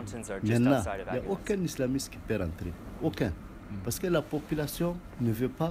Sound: speaks in a foreign language

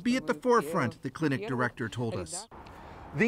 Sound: speaking Foreign Language

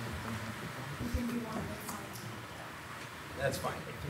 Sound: people softly chattering

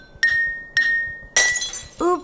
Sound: sound of glass breaking

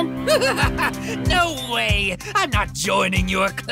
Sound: chuckles

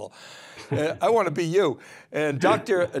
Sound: chuckles

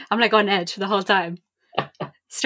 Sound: laughs

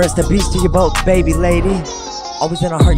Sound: child laughing

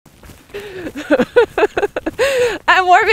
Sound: laughing

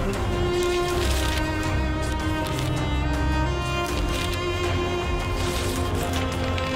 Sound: dramatic music continues; pages rustling

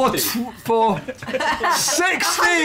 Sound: laughter

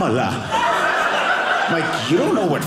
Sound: audience laughing

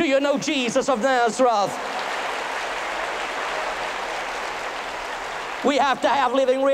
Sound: thunderous applause

